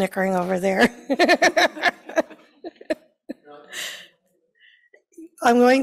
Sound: laughing

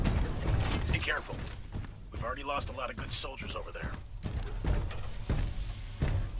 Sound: radio

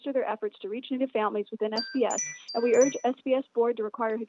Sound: chime

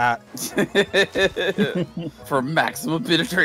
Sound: laughter

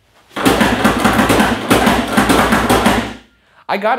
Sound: pneumatic door banging

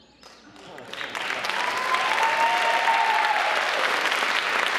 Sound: clapping

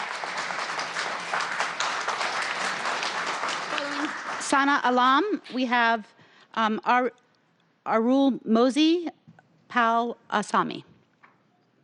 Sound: applause

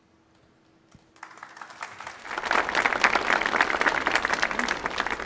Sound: audience applauding

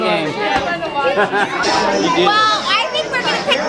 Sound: laughs

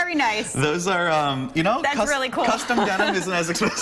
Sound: laughter

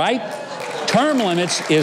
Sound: audience clapping

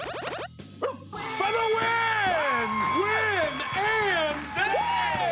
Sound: dog barks; buzzer

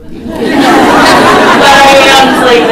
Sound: audience laughs

